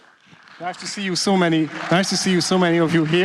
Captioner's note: applause